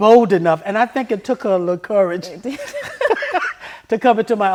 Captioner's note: laughs